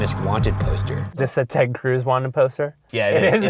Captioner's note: voiceover